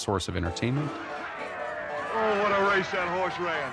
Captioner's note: crowd cheering